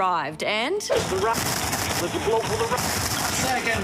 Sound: static interference crackles

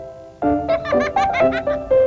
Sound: kid on toilet laughs

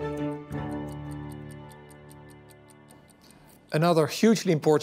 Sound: clock ticking

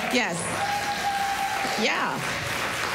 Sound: cheers, applause

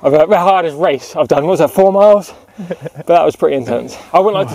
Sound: chuckles

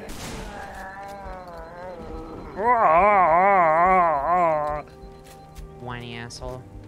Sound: Schwarzenegger-esque voiced dying “ahh”

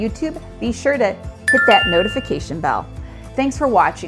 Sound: bell ringing

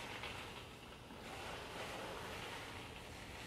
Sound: sizzling

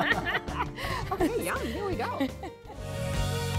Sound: laughing

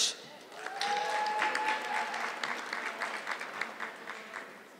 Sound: audience clapping

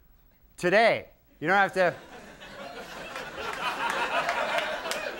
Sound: audience laughing

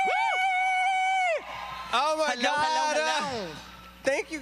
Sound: applause

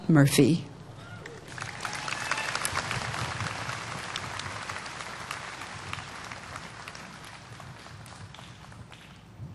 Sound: applause

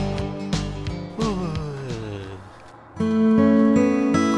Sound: yawns and goes to sleep

